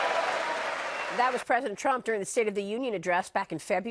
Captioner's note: cheering and applause